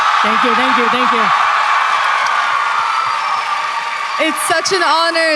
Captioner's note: applause